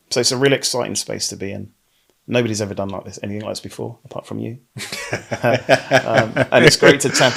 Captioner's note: laughing